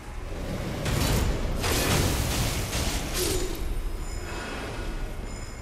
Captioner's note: weapons banging